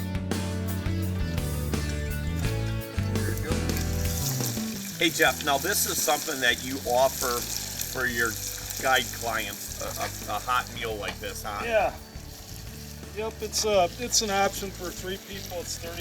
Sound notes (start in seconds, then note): 4.0 sizzling